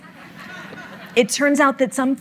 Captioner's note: audience laughing